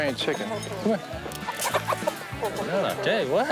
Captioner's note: clucking